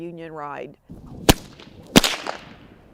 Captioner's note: whip snaps